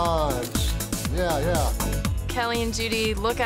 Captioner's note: camera snaps